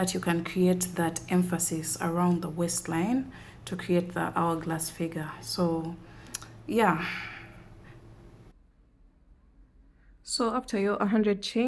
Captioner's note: sighs and gasps